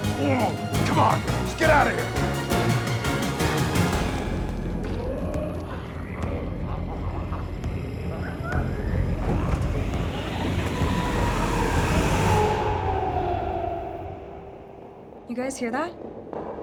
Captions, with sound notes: (dramatic music continues) Come on. Let's get outta here. (Smelly growling) (dramatic music) - You guys hear that?